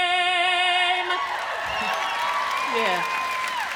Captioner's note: audience cheering